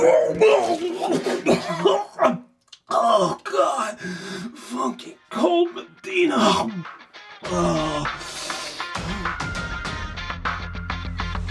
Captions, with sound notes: (heaves loudly) Oh, God! Funky cold Medina. (groans) (upbeat music)